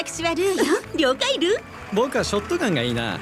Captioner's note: chuckles